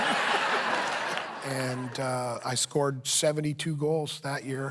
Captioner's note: laughter